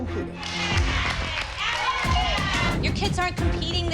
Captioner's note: others cheering